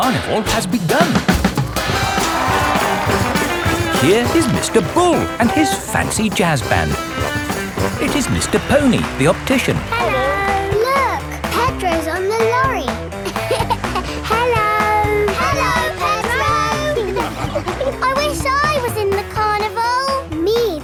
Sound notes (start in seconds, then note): 2.5 jazz music playing; 13.5 laughing